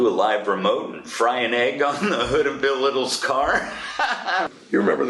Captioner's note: laughs